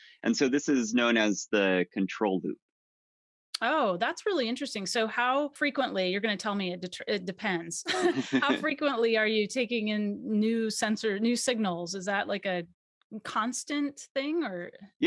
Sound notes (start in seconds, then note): 7.9 both laughs